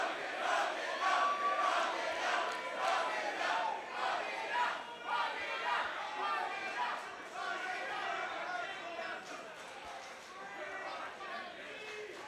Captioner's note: crowd chanting